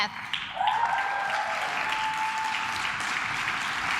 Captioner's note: claps